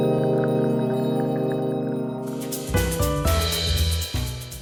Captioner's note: laughs